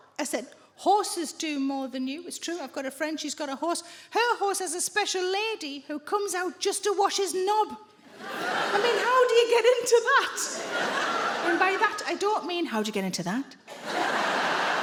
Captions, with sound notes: I said, "Horses do more than you". It's true. I've got a friend. She's got a horse. Her horse has a special lady who comes out just to wash his knob. I mean, how do you get into that? And by that, I don't mean... [IN A LUSTFUL VOICE]: "How do you get into that?"